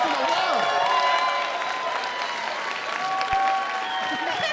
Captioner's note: cheering and applause